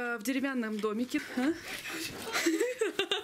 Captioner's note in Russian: смеются